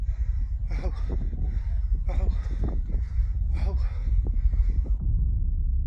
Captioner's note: holidaymaker speaks foreign language